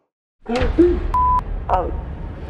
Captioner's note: beep